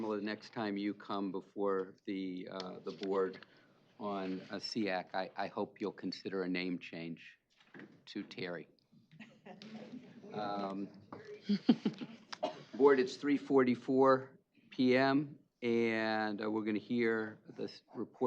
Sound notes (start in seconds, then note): 9.0 laughing